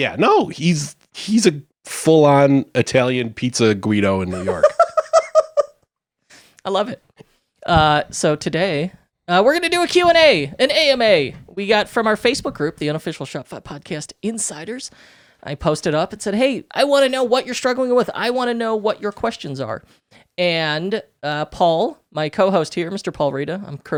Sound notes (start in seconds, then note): 4.3 laughing